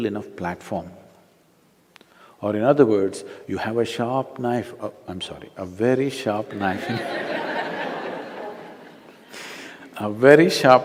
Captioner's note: laughter